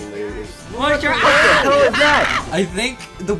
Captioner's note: crew laughing